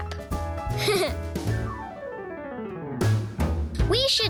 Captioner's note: laughing; upbeat music